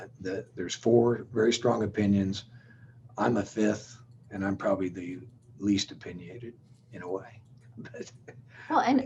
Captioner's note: chuckles